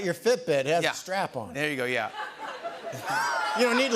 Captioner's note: laughter